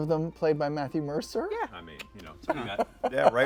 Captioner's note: clicks tongue